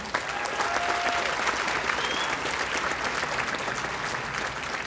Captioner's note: audience applauding